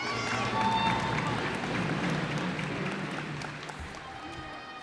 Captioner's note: cheers and applause